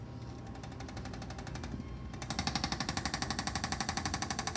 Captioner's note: tool tapping